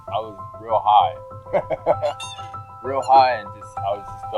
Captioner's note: man laughing